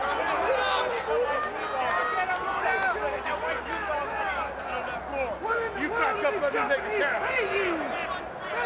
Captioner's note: crowd chatter